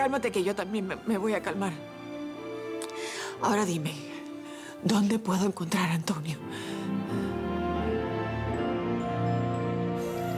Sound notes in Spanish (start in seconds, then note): none